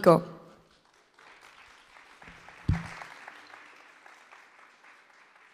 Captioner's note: audience applause